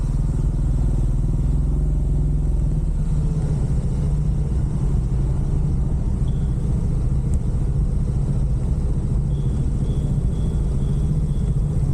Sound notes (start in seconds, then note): 0.5 engine noise